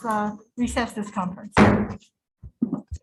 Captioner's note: gavel Bangs